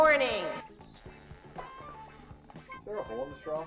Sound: dramatic, inefficient sipping

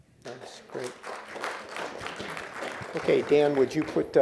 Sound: applause

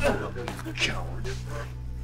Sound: Chris yelping

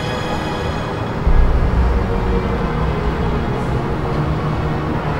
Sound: urban city sounds

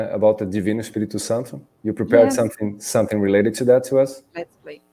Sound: speaking in Portuguese

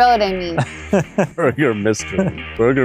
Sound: laughs

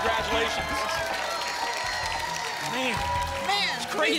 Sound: applause and cheering

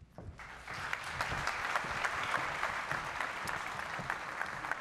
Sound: audience applauding

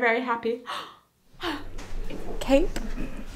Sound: gasping

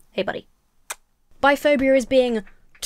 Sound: smacks lips

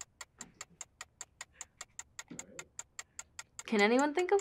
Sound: clock ticking

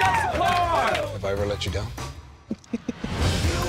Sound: snickers

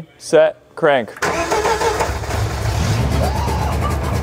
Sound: engine starting

